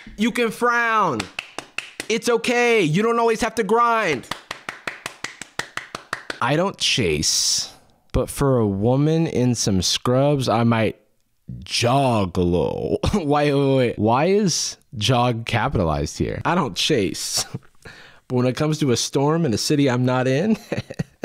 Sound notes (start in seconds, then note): 1.1 claps; 4.1 claps